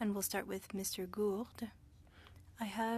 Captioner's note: speaking french